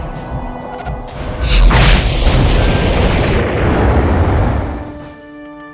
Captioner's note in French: bruitages de Predator; tir + explosion